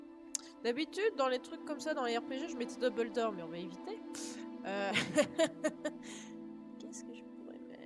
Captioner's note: laughs